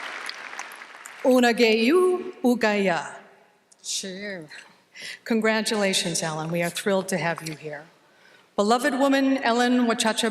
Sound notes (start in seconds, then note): 0.0 applause; 1.3 speaks Cherokee